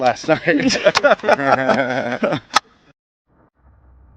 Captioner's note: all laughing